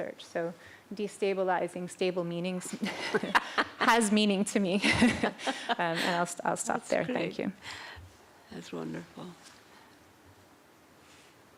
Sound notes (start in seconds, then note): 4.8 laughter